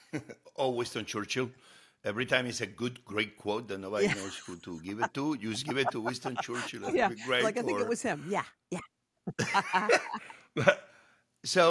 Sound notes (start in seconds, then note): 0.0 chuckles; 7.1 laughs; 10.2 laughs